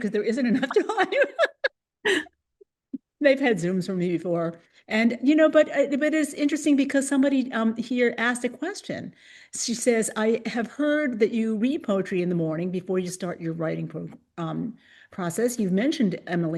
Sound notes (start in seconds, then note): 2.7 laughter